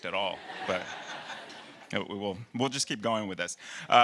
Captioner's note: audience laughing